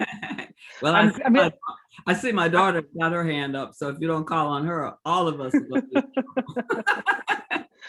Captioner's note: laughter